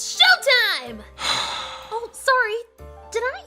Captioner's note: sigh